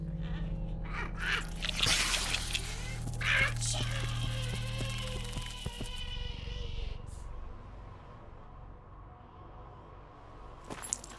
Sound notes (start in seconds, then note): 1.6 plant hisses; 7.7 soft tense music; 10.6 gravel crunching